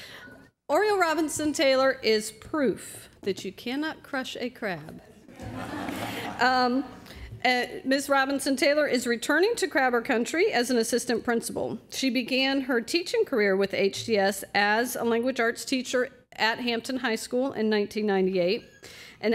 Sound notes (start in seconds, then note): 5.2 laughter